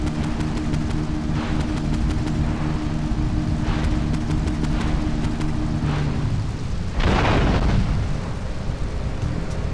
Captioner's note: gun firing